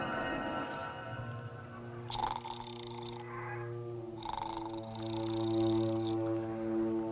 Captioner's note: suspenseful orchestral music; snoring